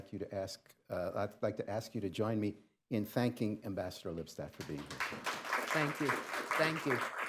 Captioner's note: applause